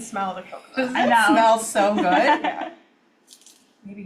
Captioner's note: laughs